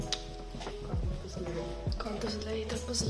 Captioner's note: in Italian